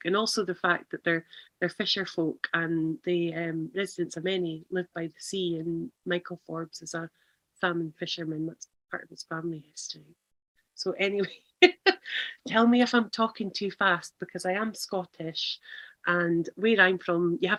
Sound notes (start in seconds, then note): 11.5 laughs